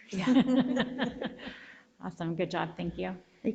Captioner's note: board members laugh